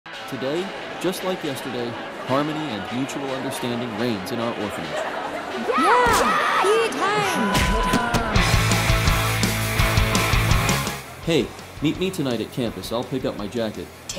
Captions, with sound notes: Today, just like yesterday, harmony and mutual understanding reigns in our orphanage. *screams of children* Hey! meet me tonight at campus, I'll pick up my jacket.